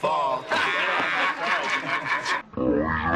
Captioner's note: lawmen laughter